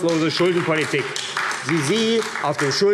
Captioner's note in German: Beifall AfD